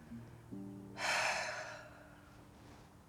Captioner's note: sighing